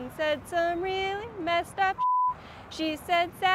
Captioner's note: beep